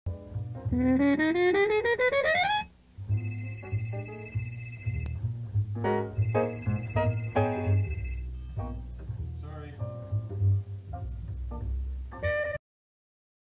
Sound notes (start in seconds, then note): 3.1 cell phone rings; 4.5 annoyed in jazz; 6.1 cell phone rings then is shut off